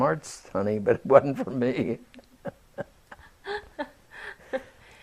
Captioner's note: laughter